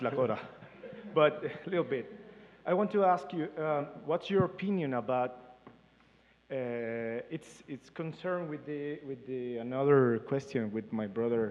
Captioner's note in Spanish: Participante habla en inglés